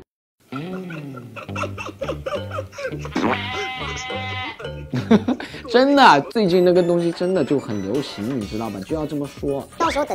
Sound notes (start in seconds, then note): 3.7 laughing